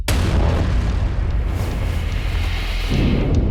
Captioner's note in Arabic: صوت الهواء